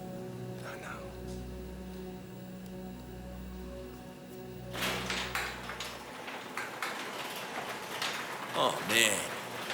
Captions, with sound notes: - I know. (garage door clattering) - Oh, man.